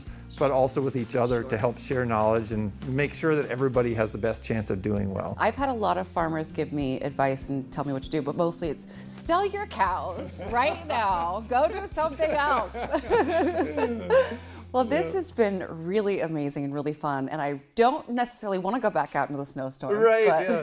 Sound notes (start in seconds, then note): 12.8 both laughing